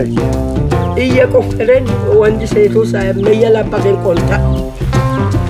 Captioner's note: speaking foreign language